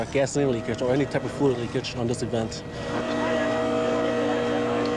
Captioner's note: machine whirring